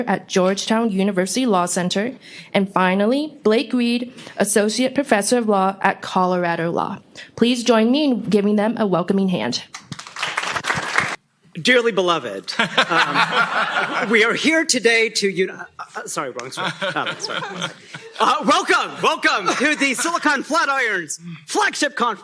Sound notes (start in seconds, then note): 9.8 applause; 12.5 laughter; 16.4 laughter